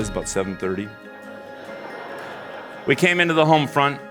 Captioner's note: laughter